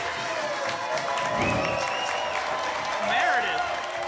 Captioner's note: applause and cheering; whoosh